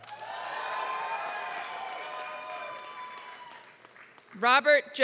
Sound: applause

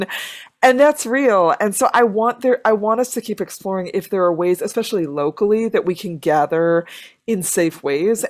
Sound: none

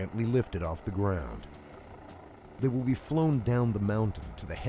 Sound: voiceover

